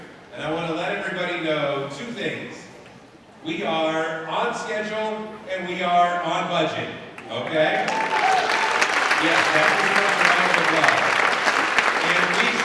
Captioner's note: applause